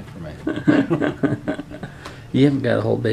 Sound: laughter

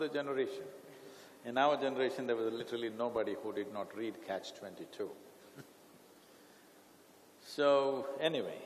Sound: laughs

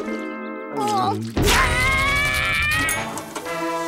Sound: screaming

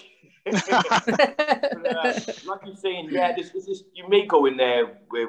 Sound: laughter

